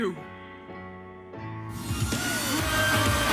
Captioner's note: the audience cheers